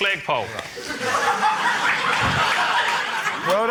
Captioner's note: laughter